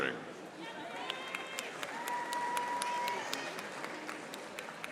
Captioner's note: audience applauding